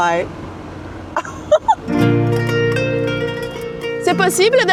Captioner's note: laughs; speaks French